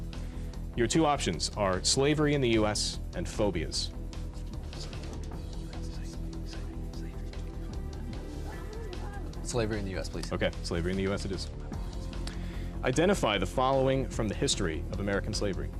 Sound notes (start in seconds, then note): 3.6 whispering; 5.6 intense music